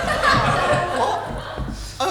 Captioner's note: audience laughs